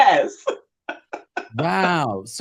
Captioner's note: laughing